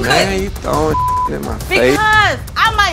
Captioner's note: beep